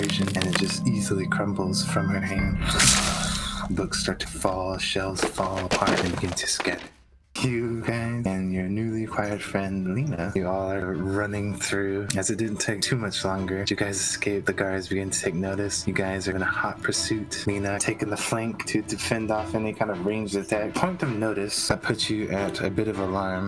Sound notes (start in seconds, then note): 2.6 FOOOshhhhh